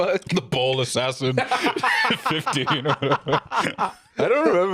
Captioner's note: both laughing